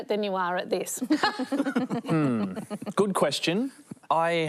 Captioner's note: laughter